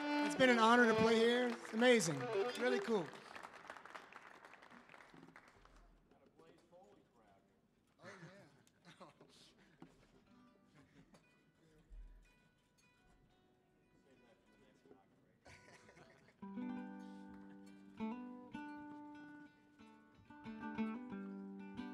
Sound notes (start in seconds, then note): 0.0 audience applauds; 6.0 band members muttering; 16.4 gentle folk music